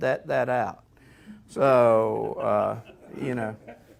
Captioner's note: audience laughing